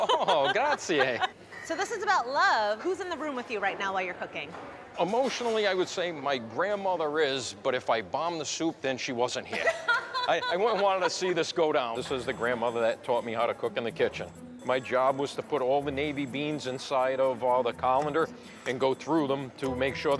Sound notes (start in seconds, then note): 0.0 laughing; 9.6 laughing